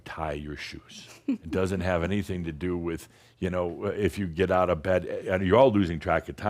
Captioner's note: giggles